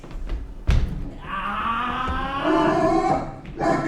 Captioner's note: shouting